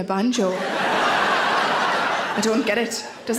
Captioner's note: audience laughs